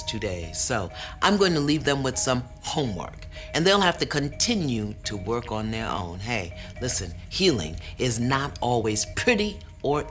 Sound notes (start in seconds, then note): none